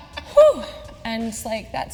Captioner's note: sharp exhales